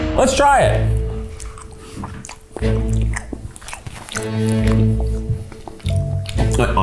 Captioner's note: suspenseful music; smacking mouth